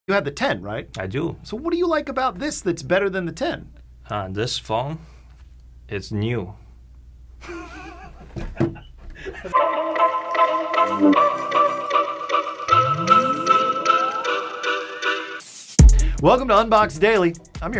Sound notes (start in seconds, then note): 7.4 both laughing; 9.5 upbeat music